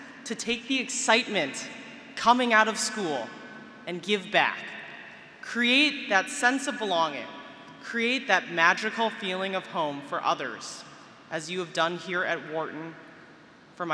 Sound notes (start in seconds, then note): none